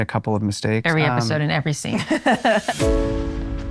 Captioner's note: laughs